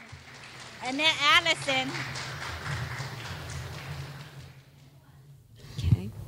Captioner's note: clapping